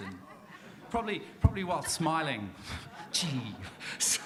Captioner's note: audience laughs